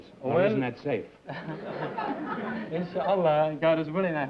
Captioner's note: laughter